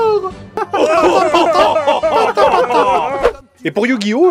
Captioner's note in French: rires collectifs clichés de fin d'épisode